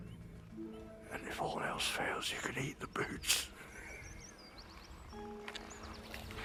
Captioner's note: laughs